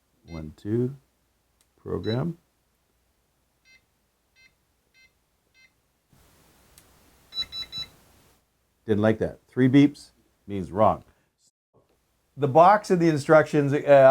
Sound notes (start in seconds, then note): 0.3 powerbolt beeping; 2.0 keypad tone; 7.3 powerbolt beeping